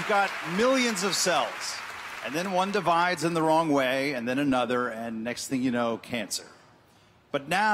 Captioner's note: applause